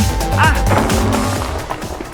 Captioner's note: crash